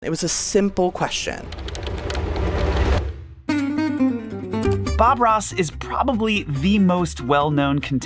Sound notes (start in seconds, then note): 1.1 dramatic music; 1.4 computer keys clacking; 3.4 bright music